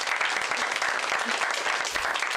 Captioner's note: applause